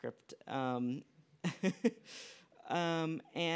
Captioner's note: laughs